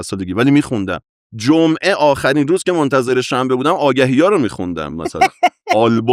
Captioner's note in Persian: خنده